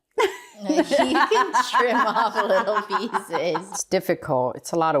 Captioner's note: laughing